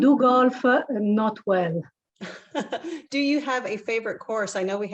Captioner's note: laugh